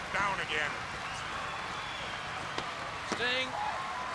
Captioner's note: crowd cheering